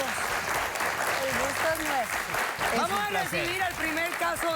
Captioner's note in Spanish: Aplausos